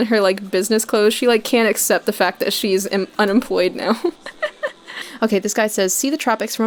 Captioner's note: chuckles